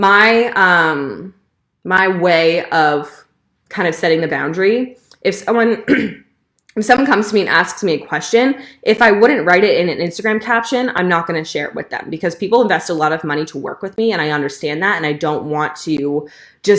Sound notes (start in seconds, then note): 5.8 clearing throat